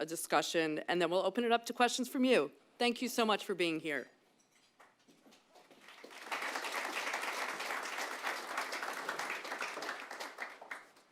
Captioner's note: applause